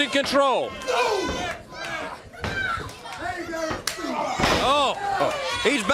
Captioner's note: crowd cheering